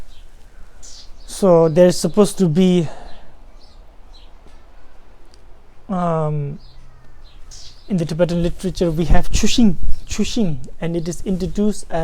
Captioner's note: tibetan